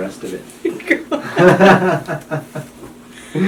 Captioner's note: chuckles; doctor laughs